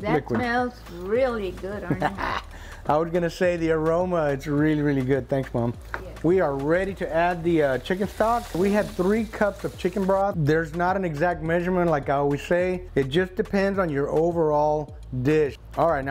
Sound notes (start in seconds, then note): 1.8 laughs proudly